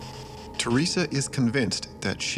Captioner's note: voiceover